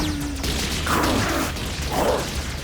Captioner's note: groaning